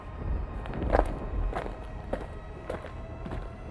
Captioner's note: more footsteps